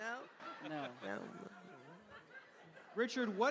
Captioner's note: laughter